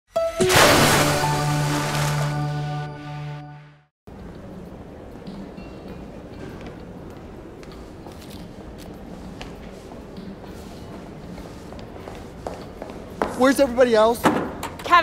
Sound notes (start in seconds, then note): 0.4 splash